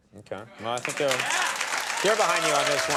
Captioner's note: audience cheering